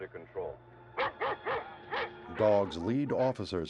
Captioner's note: dogs barking